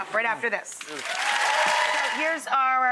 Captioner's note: audience applause